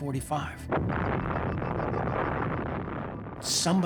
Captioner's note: explosion